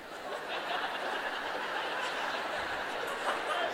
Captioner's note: laughter